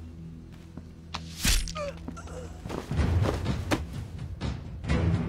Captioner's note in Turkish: Vurulma ve düşme sesi